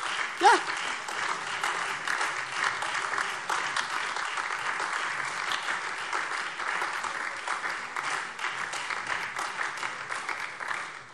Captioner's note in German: Beifall SPD, AfD, Freie Demokraten und DIE LINKE